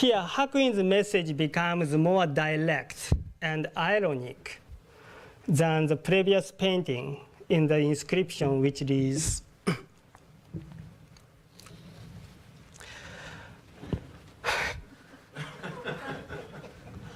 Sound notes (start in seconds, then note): 14.4 sharp exhale; 15.3 laughter